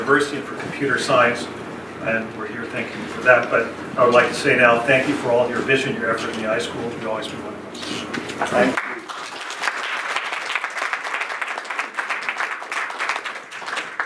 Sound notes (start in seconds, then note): 8.7 clapping